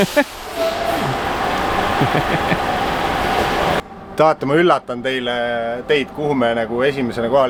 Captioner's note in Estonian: Aplaus